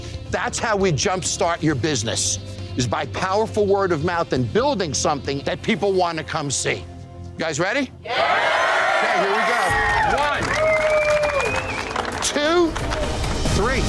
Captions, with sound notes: That's how we jumpstart your business, is by powerful word of mouth and building something that people want to come see. You guys ready? [CHEERING] OK, here we go. One, two, three.